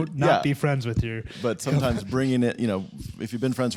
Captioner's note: laughter